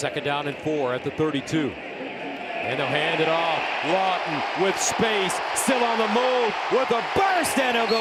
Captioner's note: whistle